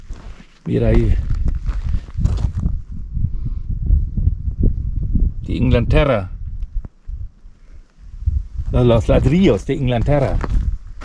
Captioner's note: steps